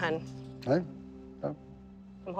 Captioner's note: mumbles